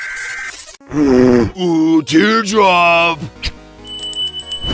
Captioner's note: blows raspberry